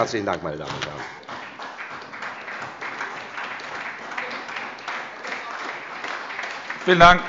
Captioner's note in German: Beifall bei der SPD